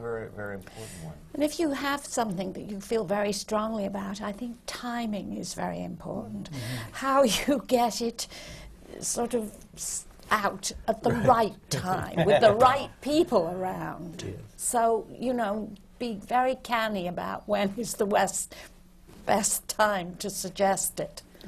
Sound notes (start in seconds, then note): 6.5 laughs; 11.8 laughter from the panel